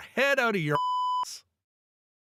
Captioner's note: beep